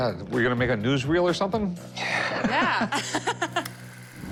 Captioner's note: laughs